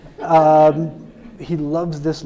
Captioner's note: audience laughing